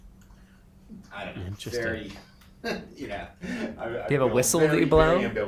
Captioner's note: chuckles